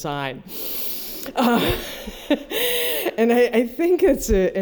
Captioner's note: laughter